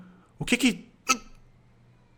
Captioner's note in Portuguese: engasgo